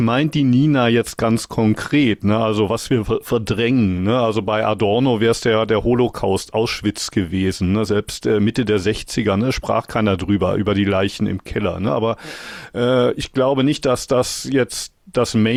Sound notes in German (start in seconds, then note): none